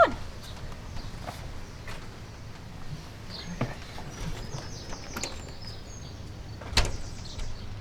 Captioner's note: birds chirping